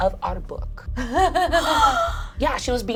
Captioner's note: laughs; gasps